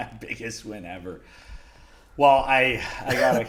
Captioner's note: laughs